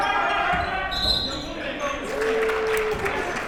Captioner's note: whistle blows; clapping